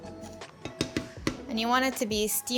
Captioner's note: spatula tapping